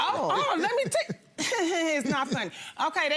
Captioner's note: laughs